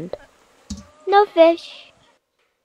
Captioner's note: bucket sound